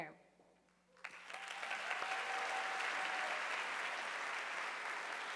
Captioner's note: audience applauding